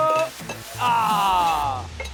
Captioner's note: groan